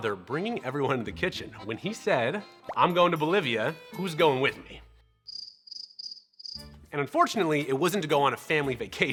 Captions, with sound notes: bringing everyone into the kitchen when he said, "I'm going to Bolivia. Who's going with me?" [crickets chirping] And unfortunately, it wasn't to go on a family vacation.